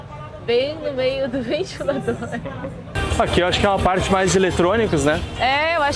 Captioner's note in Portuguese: risadas